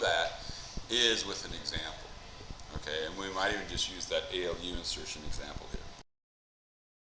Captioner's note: mic cuts out